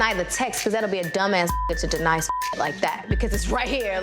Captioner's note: beep